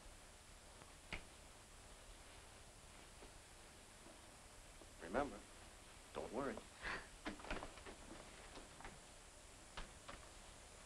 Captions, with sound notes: Remember, don't worry. (Lee chuckles)